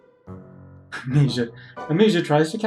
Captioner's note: laughs